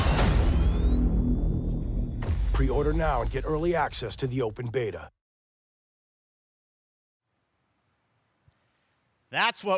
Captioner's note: gunshots